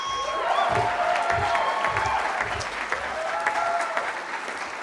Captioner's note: cheering